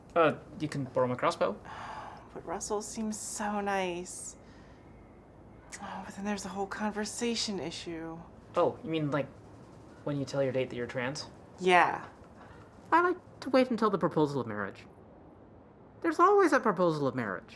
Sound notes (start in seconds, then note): none